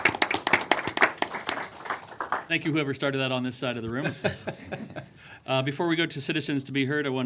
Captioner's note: applause